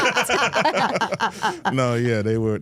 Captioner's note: all laughing